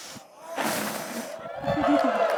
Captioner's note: flames roar; audience cheers and applauds